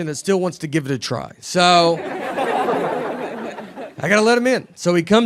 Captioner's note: audience laughing